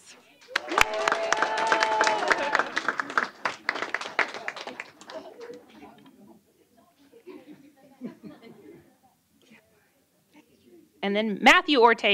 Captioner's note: applause